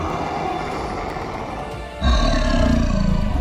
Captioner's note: growl